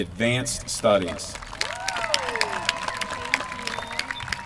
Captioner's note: applause